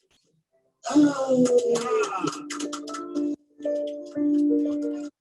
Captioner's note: people clapping